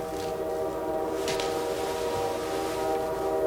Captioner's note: distant tooting of train